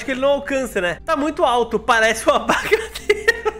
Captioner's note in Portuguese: risos